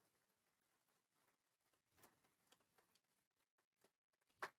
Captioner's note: hands clapping